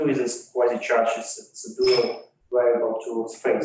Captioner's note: microphone screeches